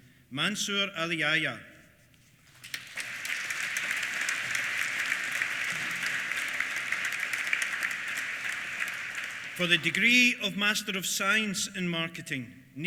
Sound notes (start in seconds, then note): 2.6 applause